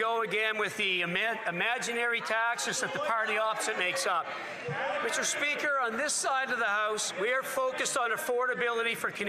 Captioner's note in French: voix de l'interprète